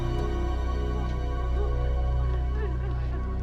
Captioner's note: Caitlin sobs